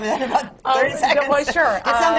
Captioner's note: laughs